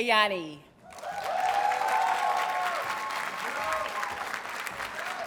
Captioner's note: audience cheers and applauds